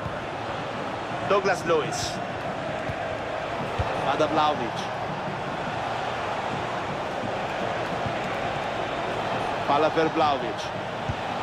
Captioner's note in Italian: Applauso